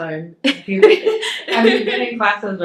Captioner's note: both laugh